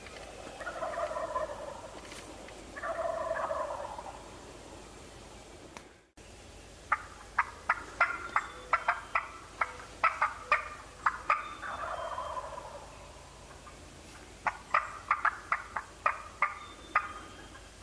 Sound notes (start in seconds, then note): 0.0 turkeys gobbling lightly; 6.9 imitates gobbling